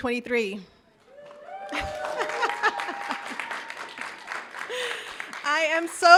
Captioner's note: audience cheering and applauding